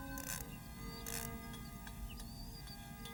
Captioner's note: ratcheting sounds